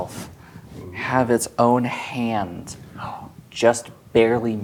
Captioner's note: gasps